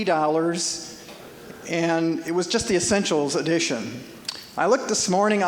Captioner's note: audience chuckling